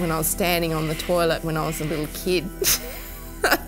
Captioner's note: laughs